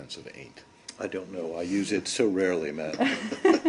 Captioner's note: laughter